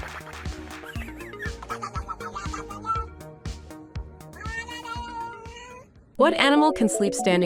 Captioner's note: cat babbling; fun music